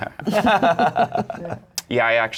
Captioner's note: laughter